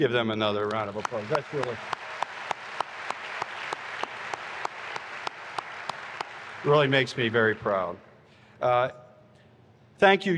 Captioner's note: applause